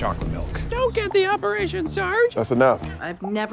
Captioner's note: baby voice